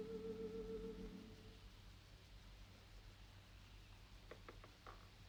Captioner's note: birds chirping